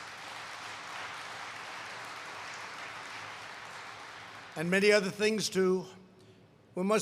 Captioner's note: applause